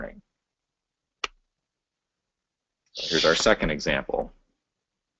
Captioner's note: pause